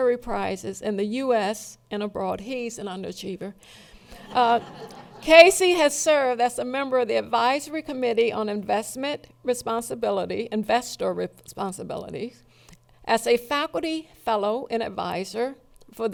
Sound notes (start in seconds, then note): 4.1 laughing